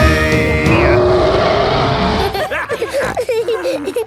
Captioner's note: roaring; laughter; snorting